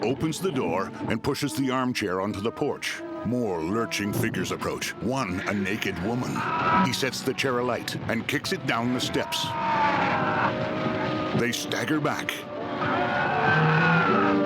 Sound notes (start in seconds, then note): 4.0 flames whooshing; 5.2 frightened moans; 12.6 frightened screams